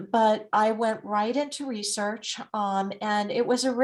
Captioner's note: none